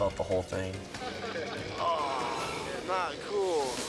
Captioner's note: groans